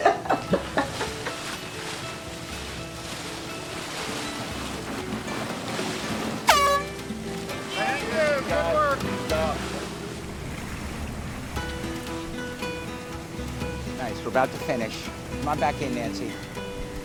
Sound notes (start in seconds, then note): 0.0 laughing; 6.4 air horn blows; 11.3 bright guitar music